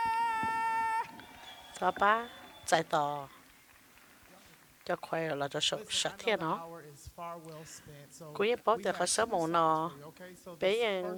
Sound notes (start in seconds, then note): 3.4 cheers and applause